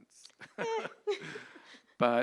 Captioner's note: laughs